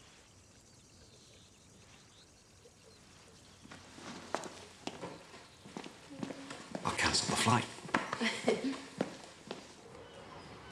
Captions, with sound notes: I'll cancel the flight. (ERIN LAUGHS)